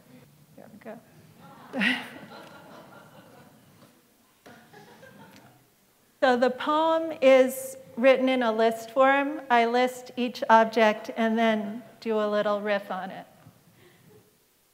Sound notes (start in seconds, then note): 1.4 laughter